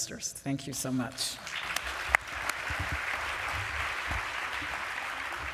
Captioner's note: applause